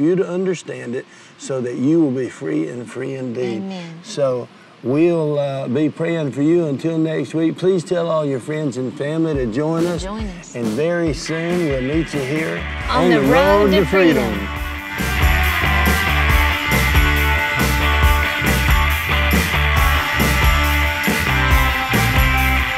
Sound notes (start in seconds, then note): 12.3 speaking in unison; 16.3 upbeat rock music